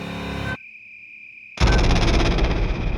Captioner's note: animal chittering